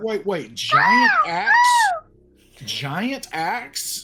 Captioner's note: squawking